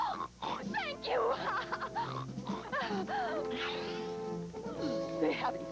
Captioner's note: snorts; snorts